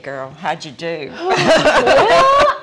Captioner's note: guffaws